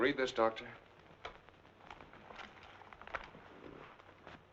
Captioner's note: newspaper rustling